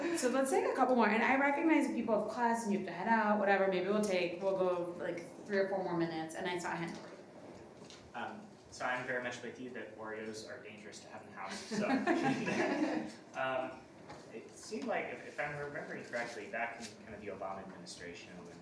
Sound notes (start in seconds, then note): 11.5 everybody laughing